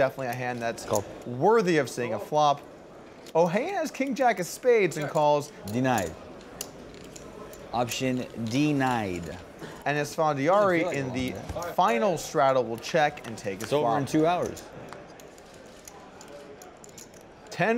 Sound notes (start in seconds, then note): 10.1 players chatter